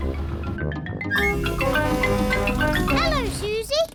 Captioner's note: horn blares